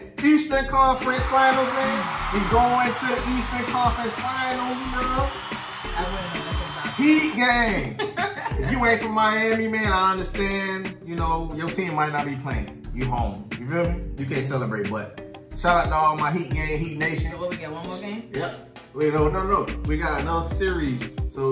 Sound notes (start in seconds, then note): 1.0 virtual cheering; 7.9 laughing